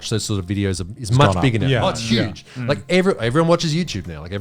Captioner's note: all laughing